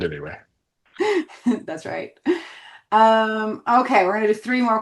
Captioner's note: chuckles